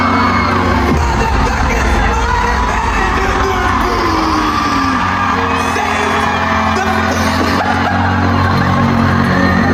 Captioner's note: laughing